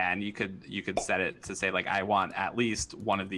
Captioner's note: popup pops